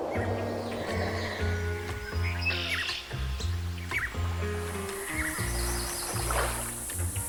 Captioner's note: birds chirping; water cascading